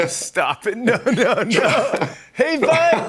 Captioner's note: laughing